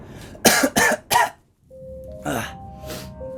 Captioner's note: cough